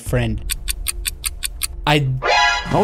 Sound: clock rapidly ticking

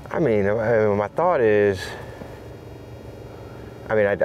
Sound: none

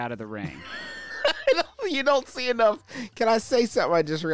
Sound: laughing

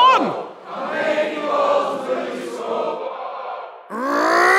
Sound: crowd chants continue

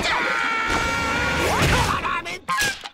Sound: screaming; grunting

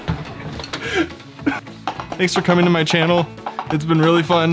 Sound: laughing; horse Galloping Sounds

